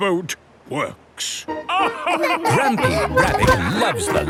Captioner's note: all laugh